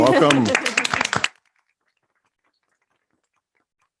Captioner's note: all clap